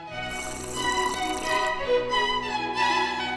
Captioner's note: slurping; instrumental music